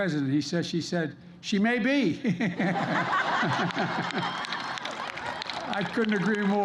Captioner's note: laughter and applause